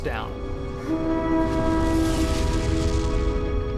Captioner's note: horns blowing